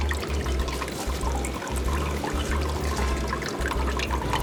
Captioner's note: water trickling